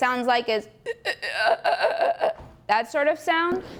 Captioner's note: choking sound